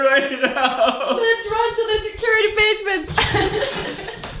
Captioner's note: giggles